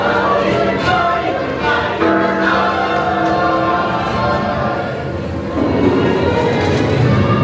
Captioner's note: Big Ben chiming; soaring magical music